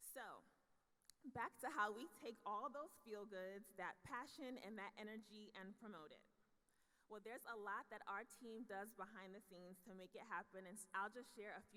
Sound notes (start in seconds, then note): none